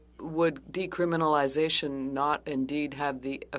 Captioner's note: speaking French